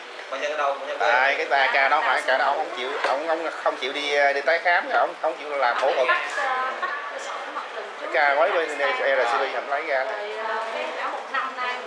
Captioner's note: chating, discussing